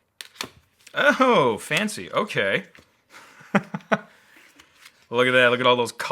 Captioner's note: laughs